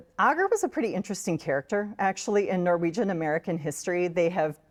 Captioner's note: none